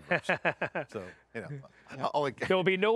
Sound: all laughing

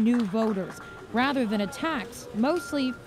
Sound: applause

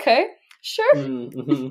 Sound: laughing

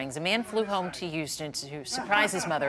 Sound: laughter

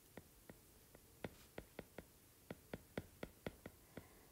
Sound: digital pen tapping noise

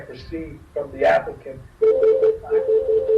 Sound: phone rings

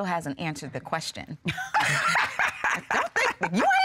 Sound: laughing

